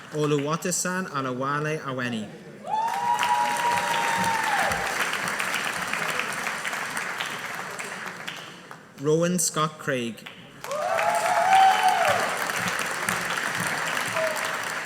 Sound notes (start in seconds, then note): 2.7 audience applauding; 10.6 audience applauding